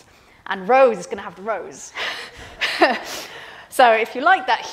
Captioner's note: laughs